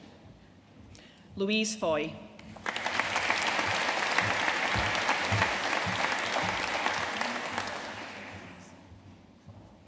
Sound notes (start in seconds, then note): 2.5 audience applauding